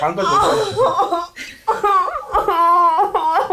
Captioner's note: laughs and gives up